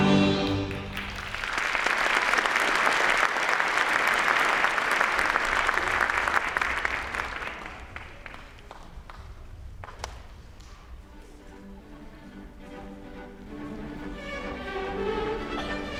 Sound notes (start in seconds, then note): 0.5 audience applauding; 12.4 lively classical music